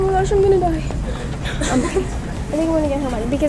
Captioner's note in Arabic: ضحكات خافتة